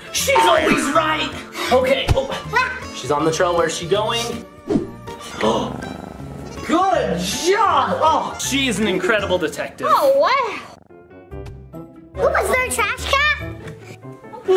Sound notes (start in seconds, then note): 5.1 gasps